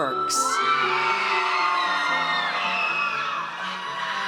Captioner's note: audience cheers